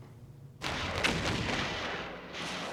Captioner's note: explosions